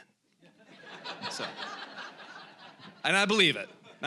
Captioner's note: audience laughing